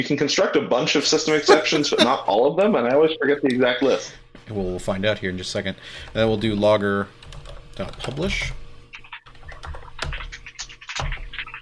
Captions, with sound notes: You can construct a bunch of system exceptions, (laughing) but not all of them. And I always forget the exact list. - We'll find out here in just a second and then we'll do logger dot publish.